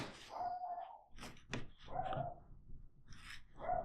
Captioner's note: dog barks